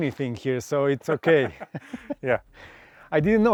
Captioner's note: both laugh